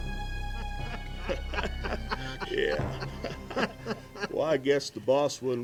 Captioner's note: men laugh